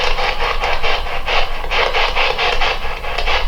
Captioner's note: static